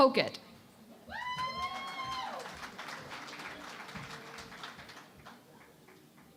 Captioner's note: cheering and Applause